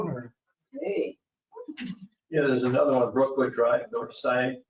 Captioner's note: people chattering